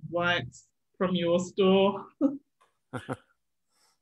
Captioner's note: chuckles